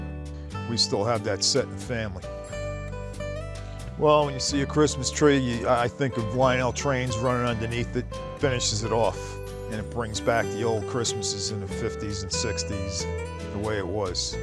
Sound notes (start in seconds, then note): none